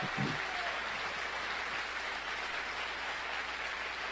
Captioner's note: applause